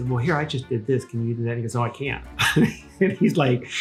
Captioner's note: chuckles